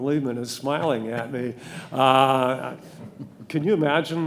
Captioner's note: laughing; audience laughing